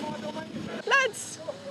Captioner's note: distant shouting